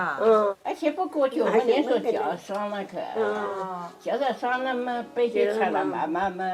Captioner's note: lady speaking in foreign language